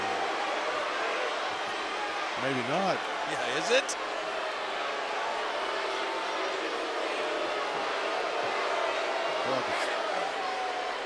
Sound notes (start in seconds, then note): 6.5 crowd booing